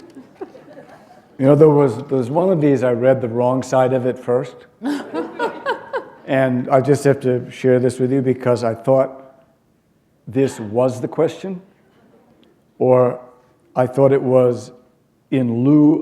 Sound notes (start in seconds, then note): 4.8 laughter